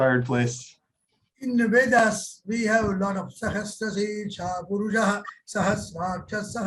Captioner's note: speaks sanskrit